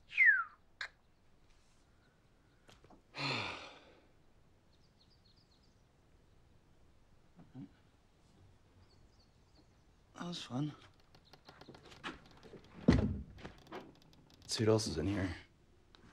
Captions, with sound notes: [descending whistle] [sighs] That was fun. Let's see what else is in here.